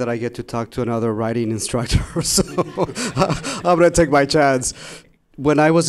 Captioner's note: laughing